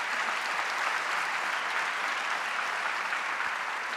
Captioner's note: audience applauding